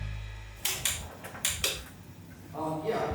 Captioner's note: music fades out; switches clicking